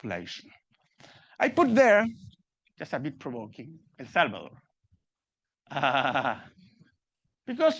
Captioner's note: laughing